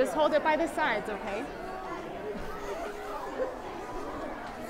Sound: chattering

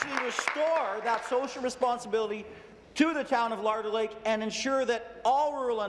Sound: applause

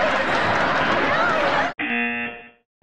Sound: buzzer

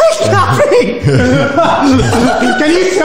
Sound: loud laughter

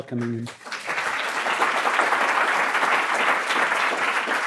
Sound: audience applauds

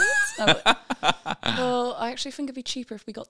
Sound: laughing

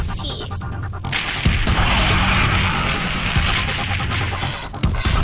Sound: roaring

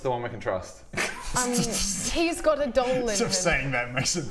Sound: reckless giggles

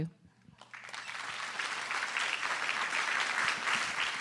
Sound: applause

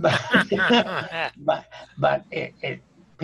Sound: laughing; chuckling

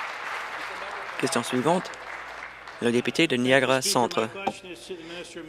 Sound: applause

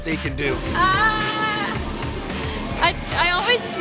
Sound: yelling

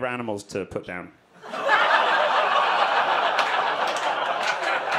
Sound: audience laughing

